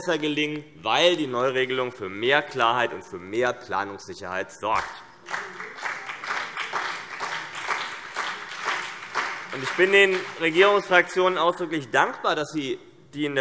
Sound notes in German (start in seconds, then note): 4.7 Beifall CDU und BÜNDNIS 90/DIE GRÜNEN